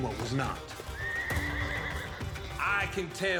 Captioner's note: horse neighs